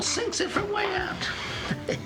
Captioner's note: Joe chuckling